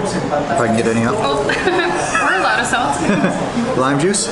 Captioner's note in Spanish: Risas